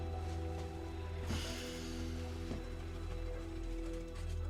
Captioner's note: sighing